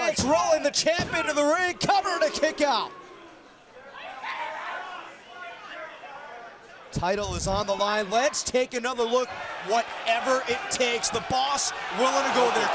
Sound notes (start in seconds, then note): 4.3 crowd chatter